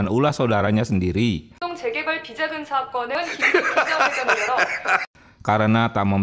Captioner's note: laughs